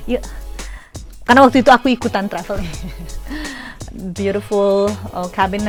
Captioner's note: laughs